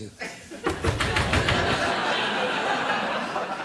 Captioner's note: banging on door